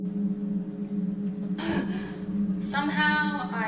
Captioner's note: Michelle's final gasp